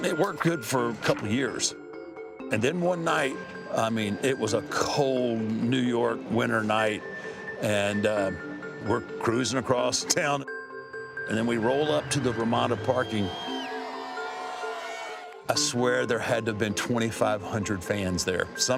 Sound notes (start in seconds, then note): 13.8 fans cheer and whistle